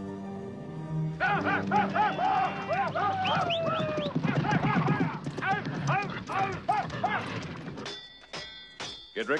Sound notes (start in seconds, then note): 1.2 men yelling; 7.9 banging